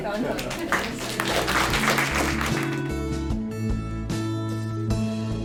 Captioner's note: audience applauses and credit music plays